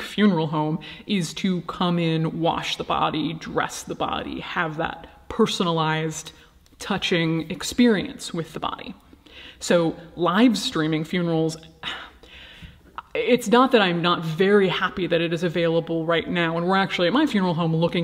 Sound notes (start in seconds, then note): 11.8 sighing